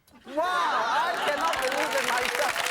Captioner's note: audience clapping